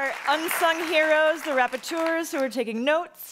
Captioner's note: speaking in foreign language